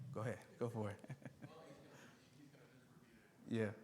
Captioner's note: chuckles